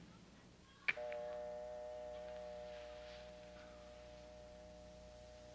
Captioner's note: dial tone ringing